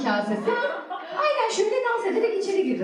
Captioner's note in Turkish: Gülüşmeler